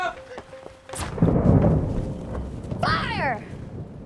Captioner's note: thundering